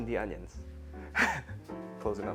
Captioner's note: chuckles